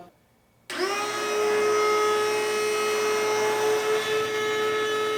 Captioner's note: machine whirring